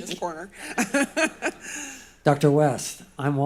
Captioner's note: laughs